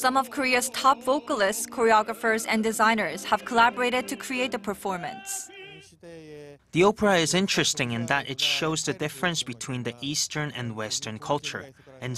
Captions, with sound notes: Some of Korea's top vocalists, choreographers, and designers have collaborated to create the performance. (Korean) "The opera is interesting in that it shows the difference between the eastern and western culture.